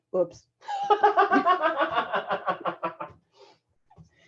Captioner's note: laughing